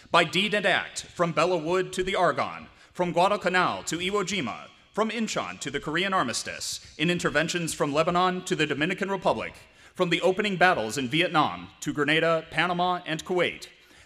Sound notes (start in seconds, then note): none